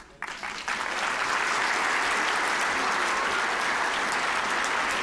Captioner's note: applause